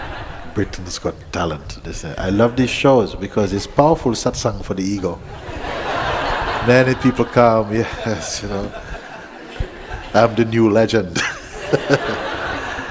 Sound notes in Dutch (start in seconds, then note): 5.2 gelach